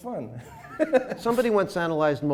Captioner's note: laughing